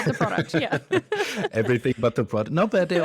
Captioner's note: both laughs